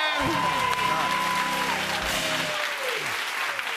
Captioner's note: cheers and applause